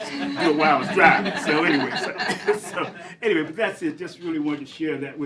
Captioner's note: laughter